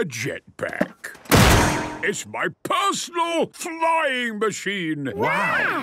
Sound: clangs

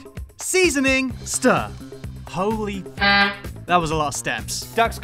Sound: beep

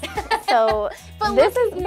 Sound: laughs

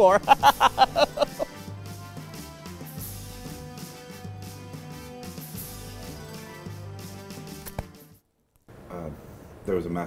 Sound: laughter

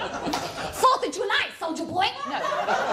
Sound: laughter; thai accent

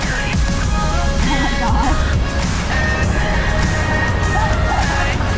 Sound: laughter

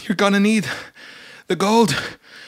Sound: deep Breath

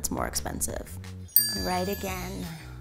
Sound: bell dings

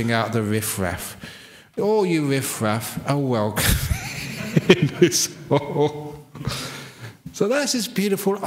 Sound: laughs

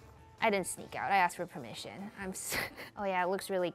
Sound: chuckles

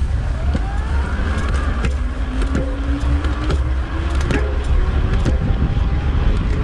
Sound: air whooshing; gears whirring

